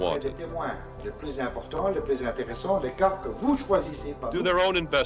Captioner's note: speaking in French